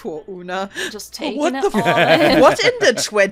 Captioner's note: laughter